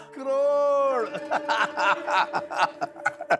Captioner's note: laughing